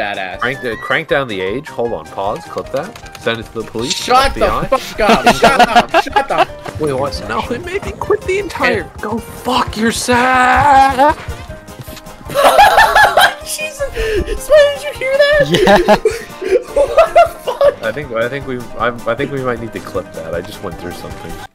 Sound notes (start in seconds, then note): 12.2 laughing; 16.3 through laughter